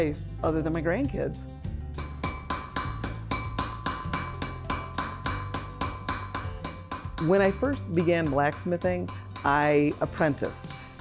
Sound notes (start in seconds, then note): 2.0 hammer clanking